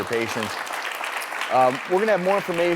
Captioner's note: audience clapping